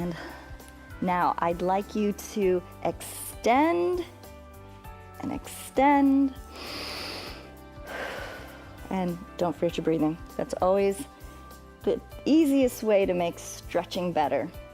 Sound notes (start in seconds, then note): 6.4 inhales and exhales